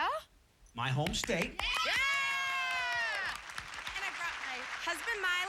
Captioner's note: cheers